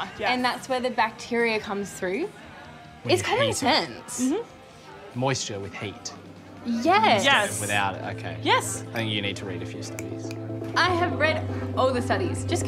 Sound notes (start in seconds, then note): 9.8 fingers snapping